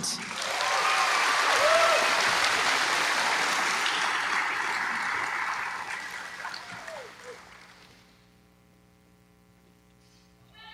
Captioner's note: applause